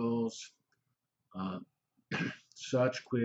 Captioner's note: pause